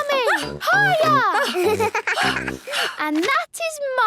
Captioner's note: giggles; panting